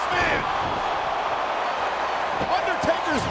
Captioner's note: crowd cheers